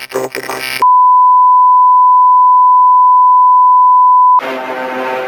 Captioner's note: bars and tone